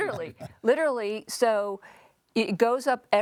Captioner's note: laughs happily